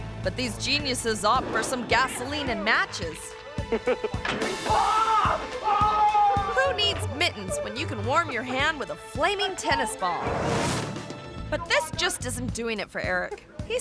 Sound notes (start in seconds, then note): 4.6 screaming